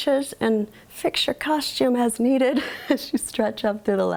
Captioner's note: laughs